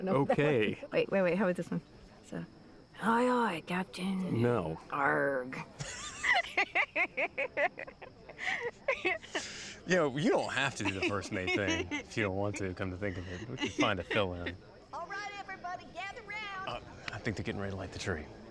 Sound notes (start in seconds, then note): 2.7 imitating pirate; 5.8 both laughing